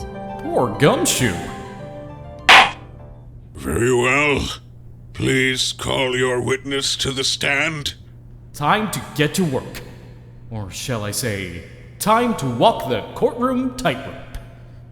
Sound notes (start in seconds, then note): 2.5 gavel slams!